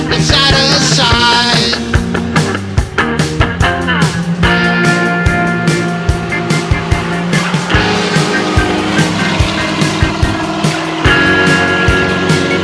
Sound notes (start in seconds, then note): 4.9 car engine roars